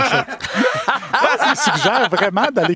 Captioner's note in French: éclats de rire